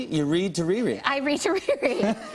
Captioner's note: chuckling